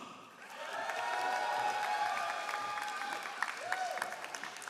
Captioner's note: all applauding